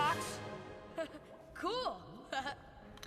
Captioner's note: chuckles